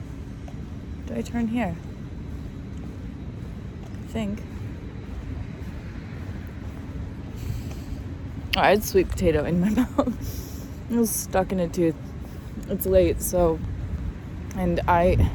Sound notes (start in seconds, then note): 8.4 clicks tongue; 10.7 chuckles